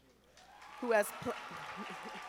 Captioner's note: audience applauding